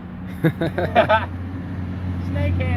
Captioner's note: all laugh